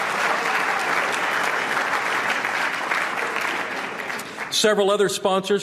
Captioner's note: applause